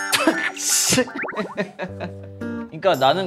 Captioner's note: laughing / why??